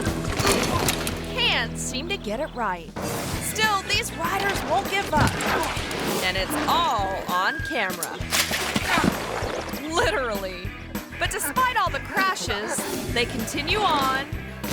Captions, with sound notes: (rider crashes) can't seem to get it right. Still these riders won't give up and it's all on camera, (bike smashes) (rider moans) (giggles) literally, but despite all the crashes, they continue on